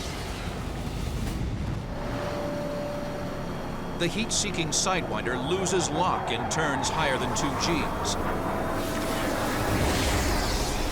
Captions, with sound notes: The heat seeking sidewinder loses lock and turns higher than 2Gs. [jet engine noises]